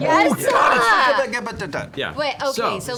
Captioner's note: frustrated noises